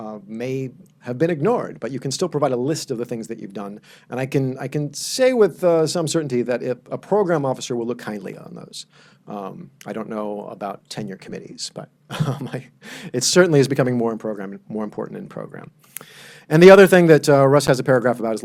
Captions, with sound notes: may have been ignored, but you can still provide a list of the things that you've done, and I can say with some certainty that if a program officer will look kindly on those. I don't know about tenure committees, but (laughs) it certainly is becoming more important in program. And the other thing that Russ has a paragraph about